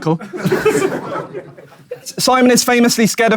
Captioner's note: audience laughing